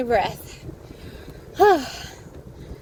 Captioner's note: exhales loudly